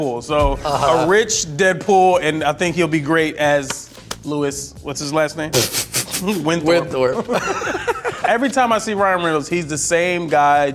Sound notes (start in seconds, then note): 5.5 laughing; 7.8 both laughing